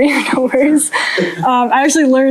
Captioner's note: laughter